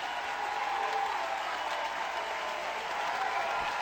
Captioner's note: applause